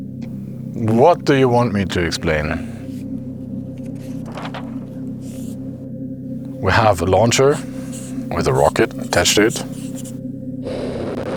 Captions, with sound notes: - What do you want me to explain? (paper clacks) (marker whirs) We have a launcher with a rocket attached to it.